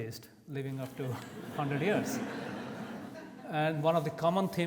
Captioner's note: audience laughs